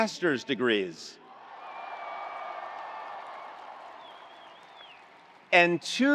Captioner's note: attendees cheering; attendees applauding